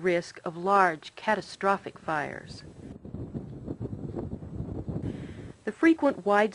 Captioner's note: fire Burning Noise